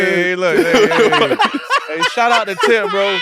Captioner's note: laughs